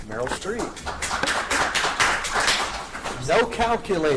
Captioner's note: audience claps